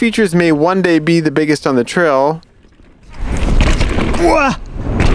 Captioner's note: groans